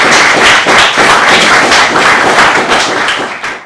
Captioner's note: claps